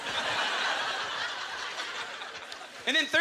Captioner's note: audience laughter